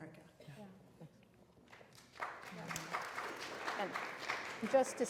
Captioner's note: applause